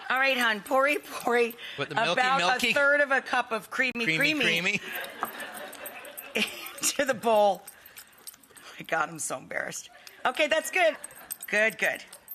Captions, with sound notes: All right, hon, pour-y, pour-y. With the milky, About milky? a third of a cup of creamy, creamy Creamy, creamy? (Rachael and audience laughing) into the bowl. God, I'm so embarrassed. Okay, that's good! Good, good.